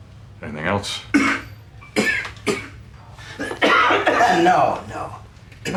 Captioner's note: hacking cough